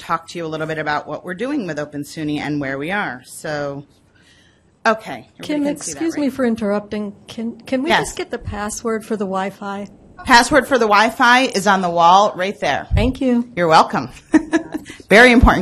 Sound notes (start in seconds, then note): 5.6 voiceover; 12.8 voiceover